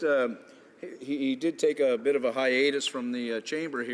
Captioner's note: none